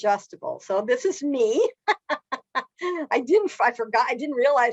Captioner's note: laughs